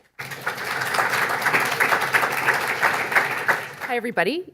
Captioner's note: audience applauds